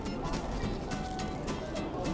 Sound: crunch

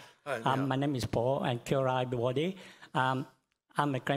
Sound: foreign language

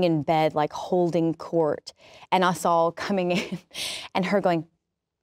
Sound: laughs

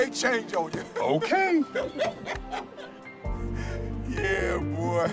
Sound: laughing

